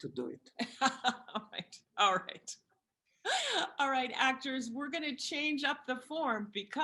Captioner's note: laughter